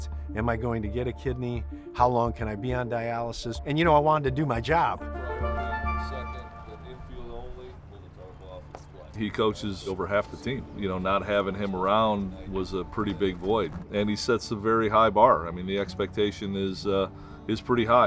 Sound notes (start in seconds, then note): 5.0 dramatic music; 6.0 coach quietly talking